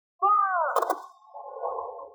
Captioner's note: gunshots